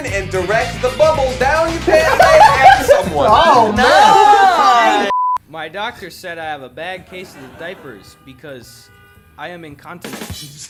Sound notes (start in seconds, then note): 3.5 group laughs; 10.4 drum beat